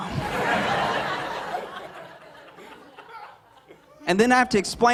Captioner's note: laughter